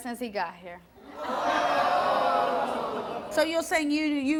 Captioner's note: audience groans